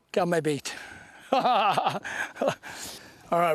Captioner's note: laughter